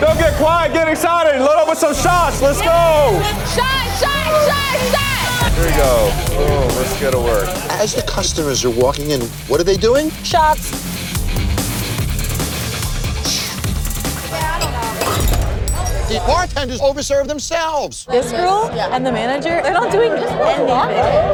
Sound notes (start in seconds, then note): 11.2 intense music; 14.6 glass shattering